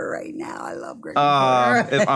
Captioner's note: laughs